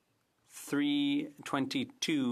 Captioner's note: speaking French